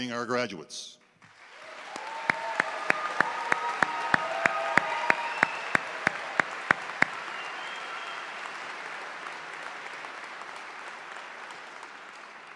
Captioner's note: applause